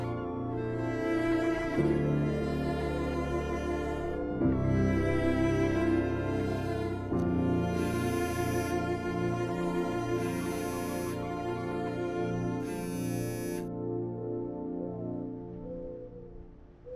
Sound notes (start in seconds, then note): 7.5 phone ringing; 13.7 ringing stops